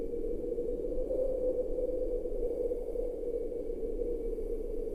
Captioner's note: wind whistling continues